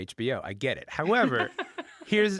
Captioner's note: laughing